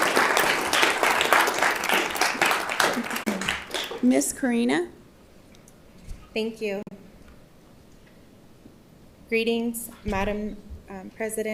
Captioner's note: applause